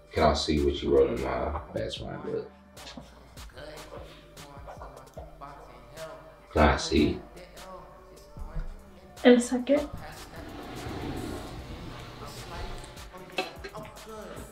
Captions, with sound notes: Can I see what you wrote in my best rhyme book? Can I see? In a second. (toilet flush)